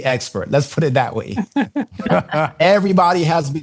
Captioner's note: laughter